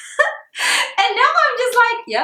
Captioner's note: chuckles